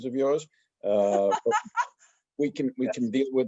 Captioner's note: laughs